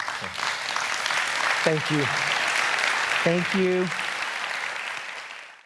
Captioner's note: applause